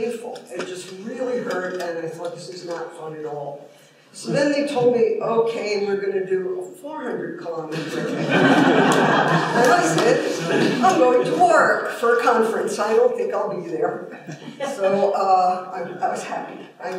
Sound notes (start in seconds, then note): 7.7 laughter